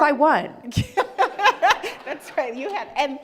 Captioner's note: laughing